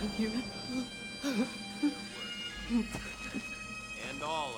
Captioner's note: whimpering